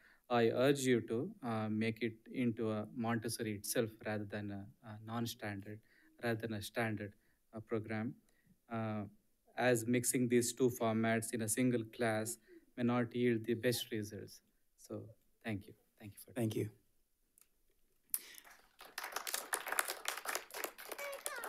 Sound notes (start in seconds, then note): 18.2 audience applauds